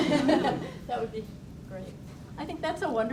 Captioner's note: audience laughs